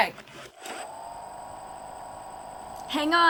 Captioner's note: engine whirring softly